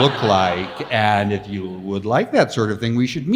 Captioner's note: audience laughs